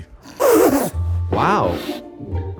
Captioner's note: blows raspberries